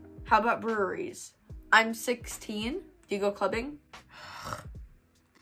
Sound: sighs

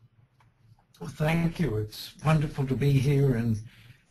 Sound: voiceover

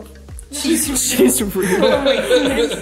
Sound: snicker

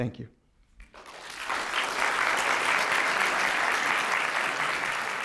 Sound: applause

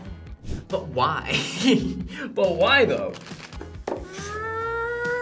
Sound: laughs

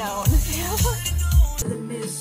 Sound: laughter

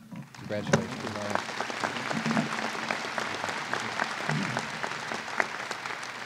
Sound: applause

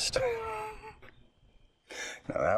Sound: Scott laughs

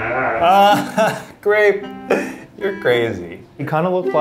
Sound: laughs

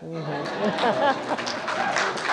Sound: laughter; applause and cheering

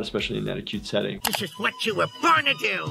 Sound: mouse clicks

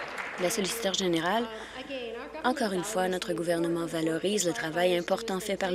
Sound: applause

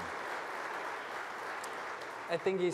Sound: applause

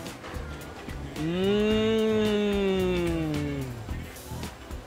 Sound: fun music; murmurs

